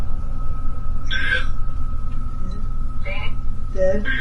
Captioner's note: EVP warbles